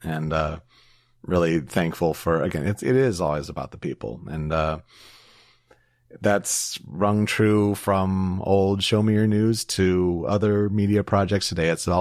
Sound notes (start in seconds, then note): none